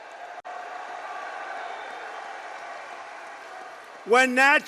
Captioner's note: applause